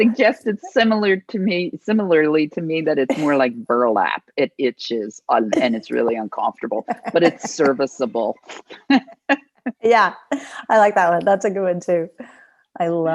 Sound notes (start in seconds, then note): 6.8 laughing